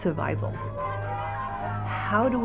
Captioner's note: crowd jeering